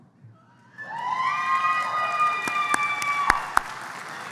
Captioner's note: cheering